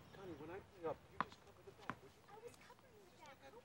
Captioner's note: couple arguing